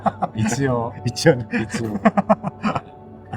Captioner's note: laughs